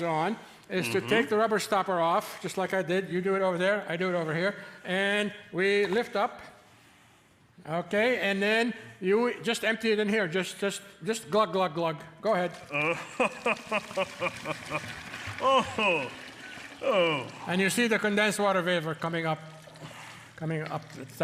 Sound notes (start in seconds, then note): 12.7 Santa laughing merrily